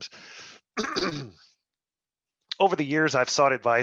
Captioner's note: clears throat